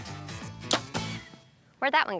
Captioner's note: arrow shot